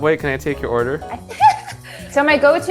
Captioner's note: laughing